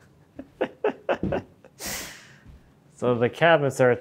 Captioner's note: laughing